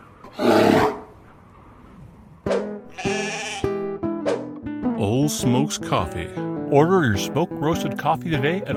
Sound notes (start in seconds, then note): 0.4 growls; 2.9 bahhing